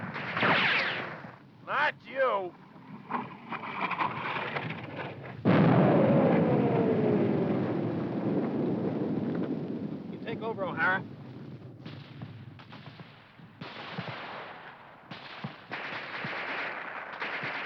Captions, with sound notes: (guns firing) Not you! (bomb exploding) You take over, Ohhara.